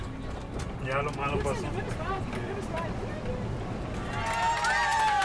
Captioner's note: speaking in Spanish; male Voice; speaking in Spanish; clapping and cheering